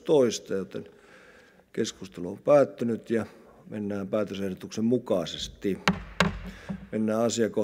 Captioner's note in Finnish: kopauttaa nuijaa